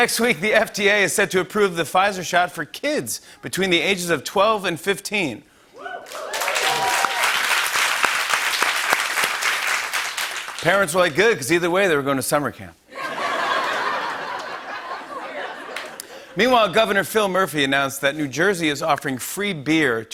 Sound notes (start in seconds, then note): 5.8 cheering and applause; 13.0 laughter and applause